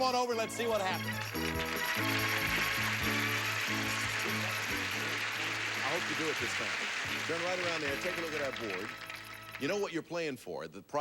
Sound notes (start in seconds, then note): 1.7 audience applauding